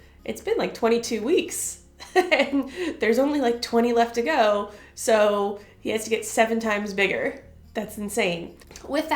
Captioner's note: laughter